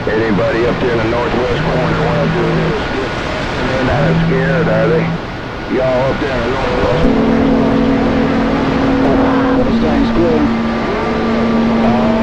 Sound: tones

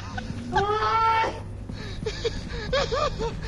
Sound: prolonged laughter

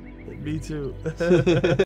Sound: laughs

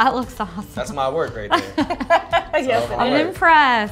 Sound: laughter

